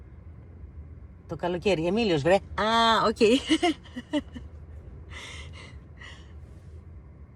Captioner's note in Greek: γέλια